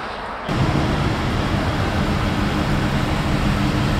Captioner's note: car idles